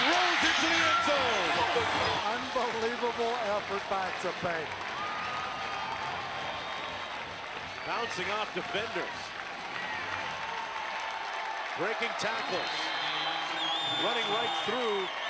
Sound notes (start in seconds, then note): 2.9 cheering